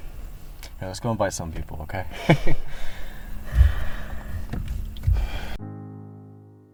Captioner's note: laughs; somber music